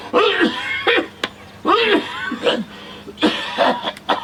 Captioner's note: laughing; Jake coughing